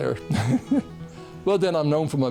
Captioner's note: laughing